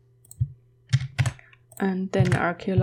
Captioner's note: typing